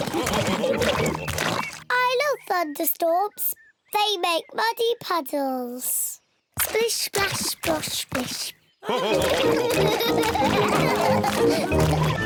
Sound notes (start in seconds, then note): 0.0 oinks; 8.8 all laughing